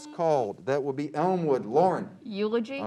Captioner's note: beep